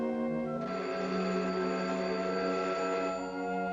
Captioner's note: phone rings